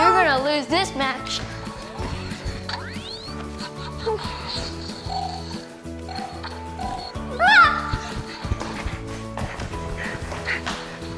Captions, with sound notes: - You're gonna lose this match. (whimpers) (yells) (panting)